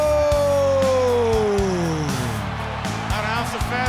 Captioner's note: audience cheers